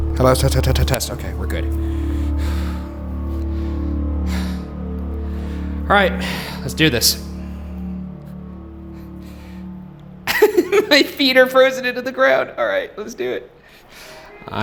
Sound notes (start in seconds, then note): 2.2 breathing heavily; 3.2 deep tense music continues; 10.2 laughing